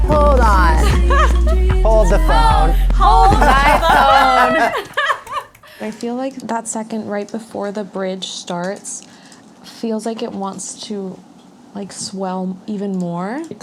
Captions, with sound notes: Hold on... (laughing) - Hold the phone. - Hold my phone! (laughing) - I feel like that second right before the bridge starts feels like it wants to... like, swell even more.